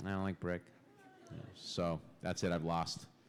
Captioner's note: laughter